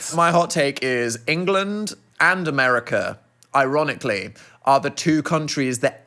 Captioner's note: none